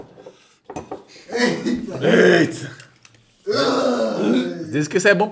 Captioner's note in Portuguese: Sons de nojo